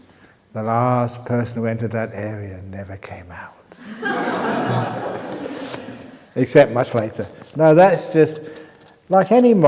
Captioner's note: laughter